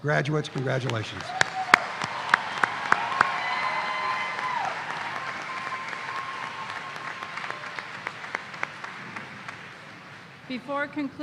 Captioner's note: applause